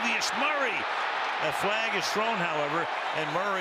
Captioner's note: cheering